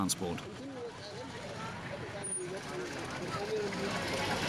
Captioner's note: indistinct chatters